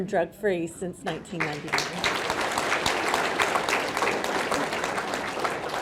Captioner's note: audience clapping